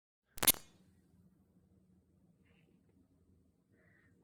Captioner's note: static crackles